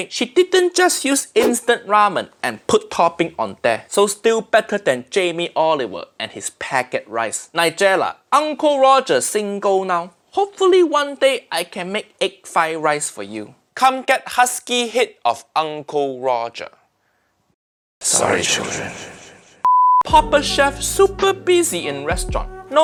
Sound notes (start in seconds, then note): 19.4 echo; 19.6 signal beeping